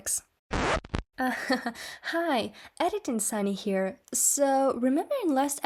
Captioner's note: record scratch